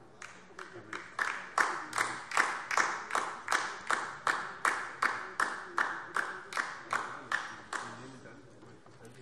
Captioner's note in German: Beifall DIE LINKE